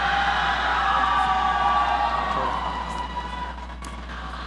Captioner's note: audience cheering